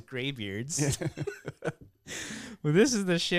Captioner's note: laughing